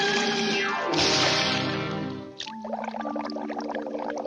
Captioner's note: dramatic music; water splashes; water bubbling